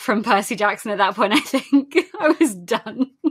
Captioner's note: laughing